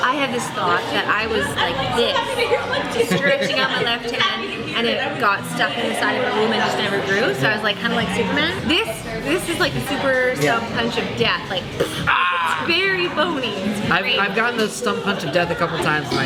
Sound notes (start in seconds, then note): 11.7 blows raspberry